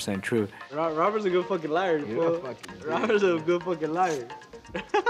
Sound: laughs

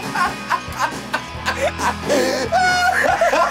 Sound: laughs

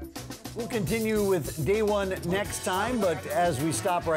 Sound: voiceover

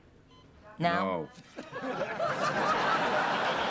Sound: laughter

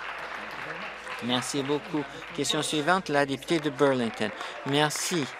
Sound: applause

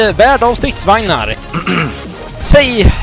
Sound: ahem

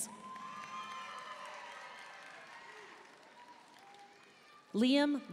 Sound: audience cheering and applauding

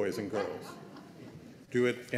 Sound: laughter

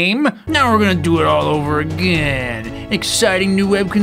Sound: epic announcer voice

